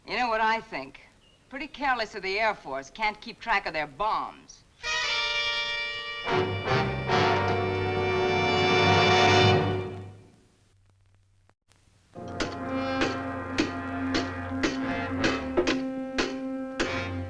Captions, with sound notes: You know what I think, pretty careless of the Air Force, can't keep track of their bombs. (suspenseful music) (banging)